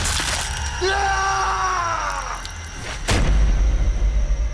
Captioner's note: crunching; screams